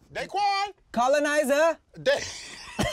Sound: both laughing

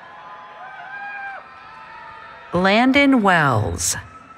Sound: cheering

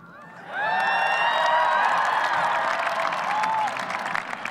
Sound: audience cheers

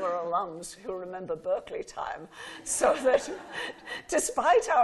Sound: laughing

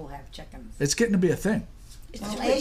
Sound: voiceover

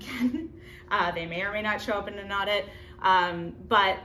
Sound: chuckles

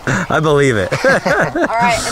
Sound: audience laughing; laughs

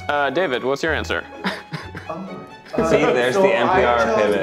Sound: chuckling

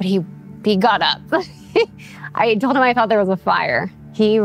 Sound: laughs

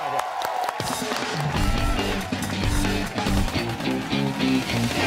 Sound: cheers and applause

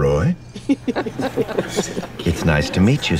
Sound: laughter

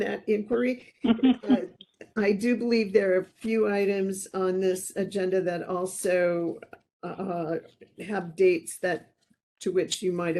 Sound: laughing

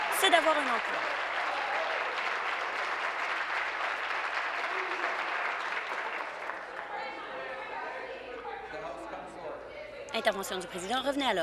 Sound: applause

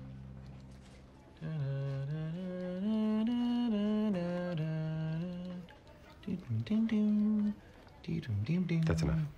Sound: ABED hums the theme to M.A.S.H

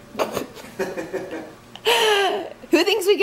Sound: couple laughs

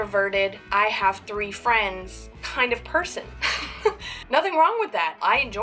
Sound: laughs

